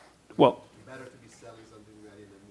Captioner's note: voiceover